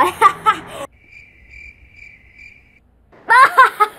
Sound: chirping Crickets

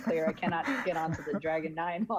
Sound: laughing

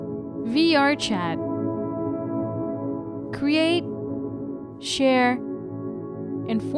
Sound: voiceover

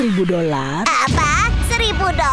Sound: suspenseful music begins; explosion noise

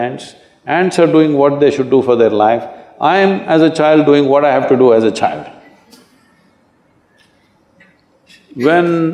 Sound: Sadhguru Laugh

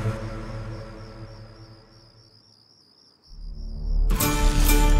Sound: night Ambient Sound

